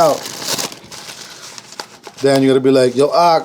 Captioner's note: paper crinkling